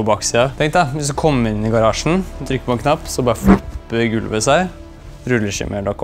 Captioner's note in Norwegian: lydeffekt